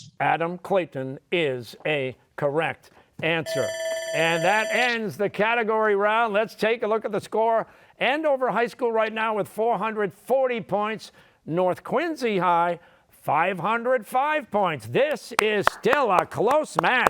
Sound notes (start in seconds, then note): 3.4 bell ringing